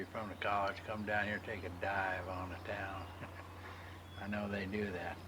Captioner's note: chuckles